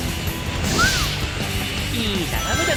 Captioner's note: whistles